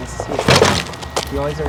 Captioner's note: one wheeler scrapes